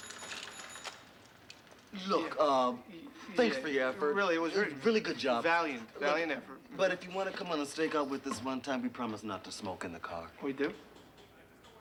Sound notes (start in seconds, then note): none